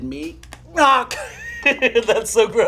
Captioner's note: cracking noise